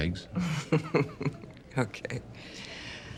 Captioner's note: chuckles